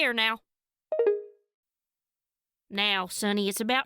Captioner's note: call ends